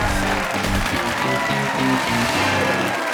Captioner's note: cheers and applause